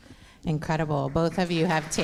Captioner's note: audience applause